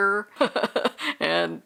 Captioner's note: laughing